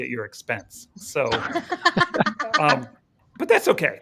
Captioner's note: all laughing